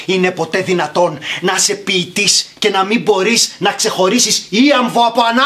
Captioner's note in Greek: none